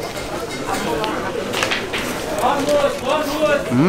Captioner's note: merchant calls in the background